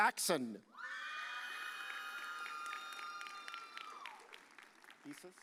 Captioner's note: audience cheers